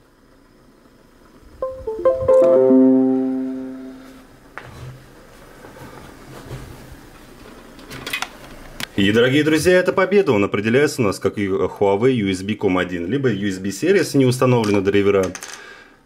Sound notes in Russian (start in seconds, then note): 1.6 звук подключения устройства W10